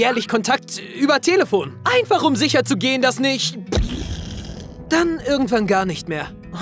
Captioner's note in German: Explosionsgeräusch